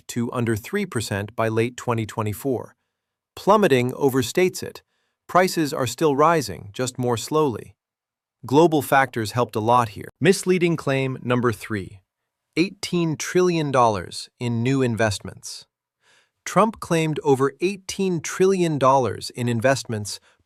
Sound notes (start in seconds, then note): 0.1 sarcastic; 6.5 thoughtful